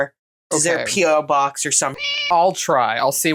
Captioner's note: meow